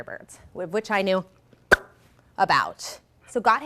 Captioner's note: smacks lips